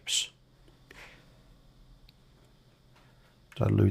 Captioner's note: silence